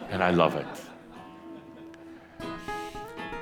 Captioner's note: a few chuckles